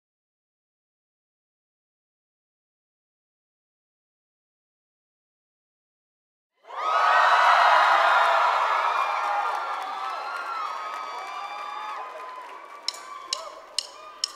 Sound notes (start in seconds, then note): 6.6 gritos y aplausos; 12.8 baquetas marcando la entrada